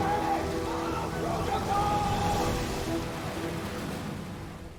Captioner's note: men yelling